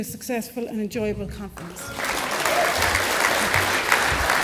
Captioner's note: applause